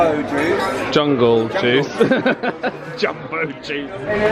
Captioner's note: laughs